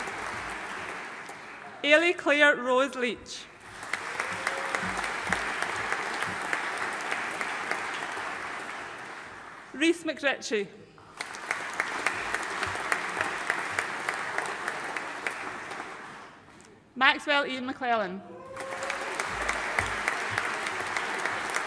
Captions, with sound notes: Eilidh Claire Rose Leitch. (AUDIENCE APPLAUDING) Rhys MacRitchie. (AUDIENCE APPLAUDING) Maxwell Ian McClellan. (AUDIENCE APPLAUDING)